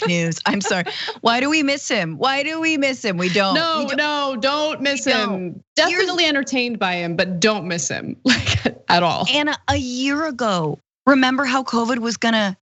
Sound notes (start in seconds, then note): 0.0 laugh; 8.9 laugh